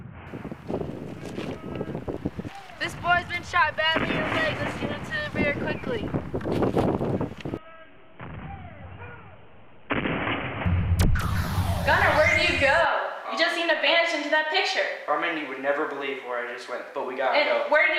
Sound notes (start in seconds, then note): 0.0 faint sounds of artillery; 8.2 sounds of artillery... then an explosion; 11.0 electronic whirring sound